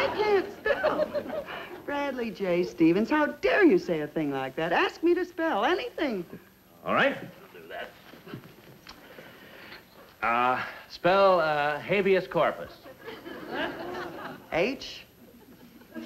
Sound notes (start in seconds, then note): 12.8 audience laughs